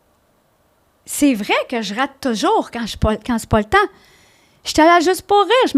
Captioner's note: in french